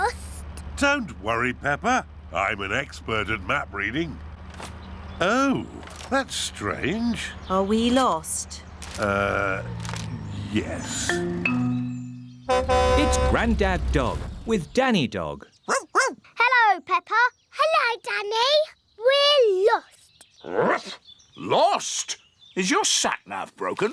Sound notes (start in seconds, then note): 12.3 horn honks; 15.6 barking; 19.8 barks